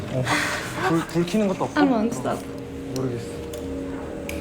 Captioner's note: laughs